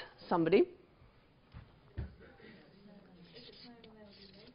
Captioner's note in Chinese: 無聲